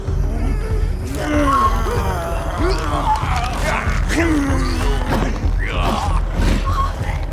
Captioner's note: Brad growling; Heather gasping; Brad groaning